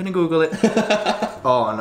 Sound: laughing

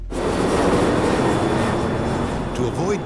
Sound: plane whooshing

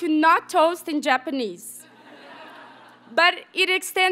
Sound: audience members laugh

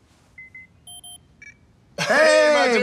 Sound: application beeping

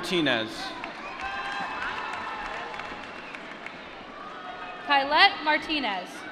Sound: applause

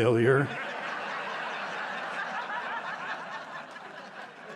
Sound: laughter

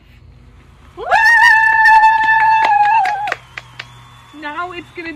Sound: women cheering

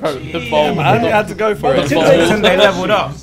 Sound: murmurs

